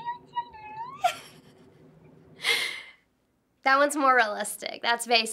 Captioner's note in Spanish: la mujer habla chino; risitas